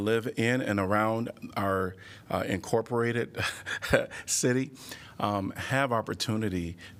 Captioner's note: laughter